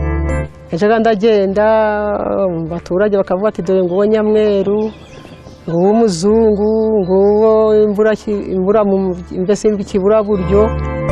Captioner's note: speaking in Kinyarwanda; synth music